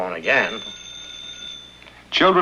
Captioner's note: ringing